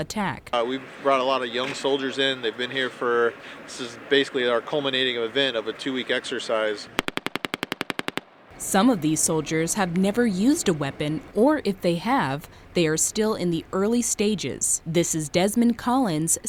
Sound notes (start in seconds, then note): 6.9 take nat.... gun shots